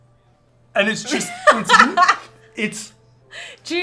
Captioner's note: laughter